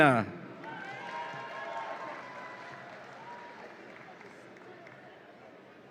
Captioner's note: audience applauds and cheers